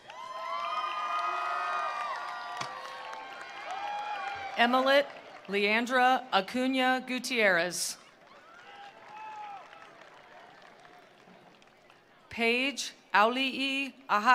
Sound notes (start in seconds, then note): 0.0 attendees cheering; 0.0 attendees applauding; 8.0 attendees applauding; 8.1 attendees cheering